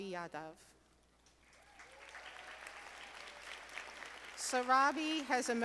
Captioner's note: audience applauding